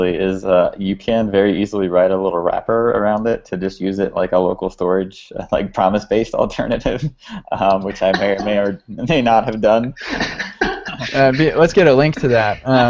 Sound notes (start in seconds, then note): 6.6 laughs; 9.8 laughter